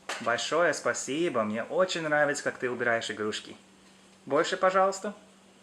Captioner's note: speaking in foreign language